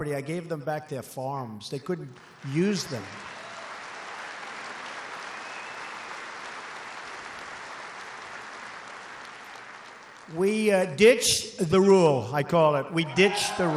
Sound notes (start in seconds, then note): 4.1 applause